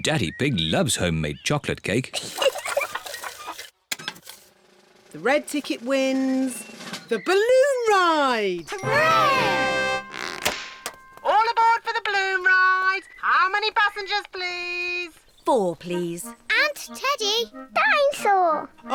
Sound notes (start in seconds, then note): 2.1 giggles